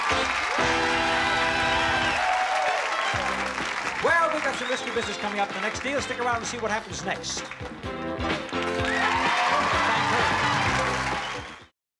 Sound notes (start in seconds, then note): 0.0 applause; 8.5 cheering